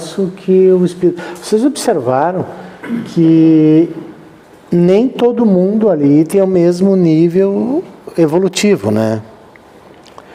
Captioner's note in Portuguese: limpando a garganta